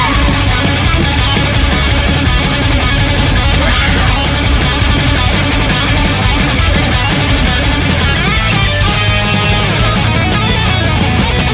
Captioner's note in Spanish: grito